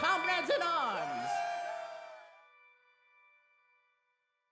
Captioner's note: group cheering